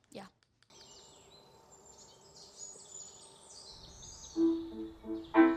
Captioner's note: birds chirping; soft piano music